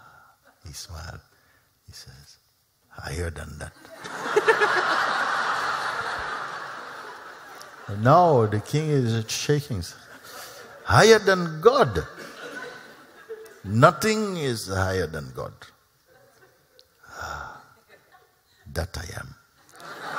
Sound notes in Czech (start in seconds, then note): 3.9 Smích